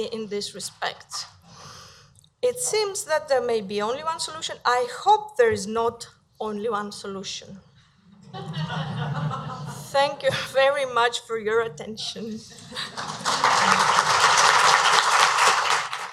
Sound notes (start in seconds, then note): 8.1 laughter; 12.7 audience applause